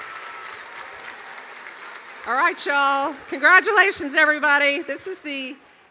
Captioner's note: cheers and applause